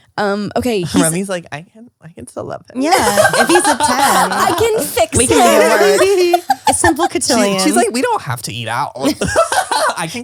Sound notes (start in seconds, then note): 6.2 laughs; 9.8 laughs